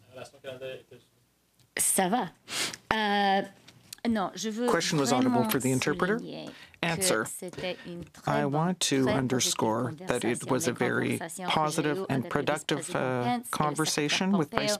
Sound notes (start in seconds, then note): 4.6 speaking French